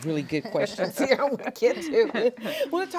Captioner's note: all laughing